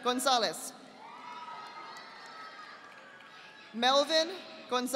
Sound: audience applauding

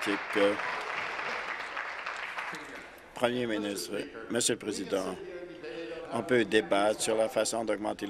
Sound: applause

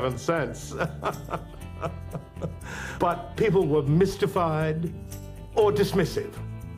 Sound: laugh

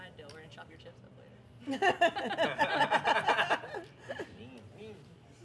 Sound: laughter

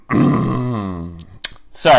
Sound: coughing

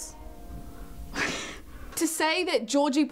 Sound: whispers

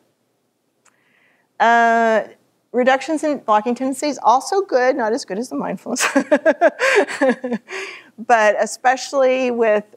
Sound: laughter

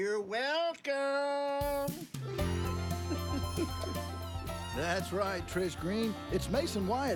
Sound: chuckling

